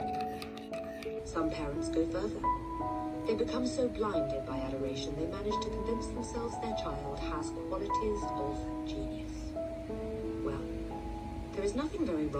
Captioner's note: "Matilda" audiobook playing in the background